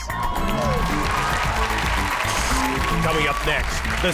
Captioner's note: audience applauds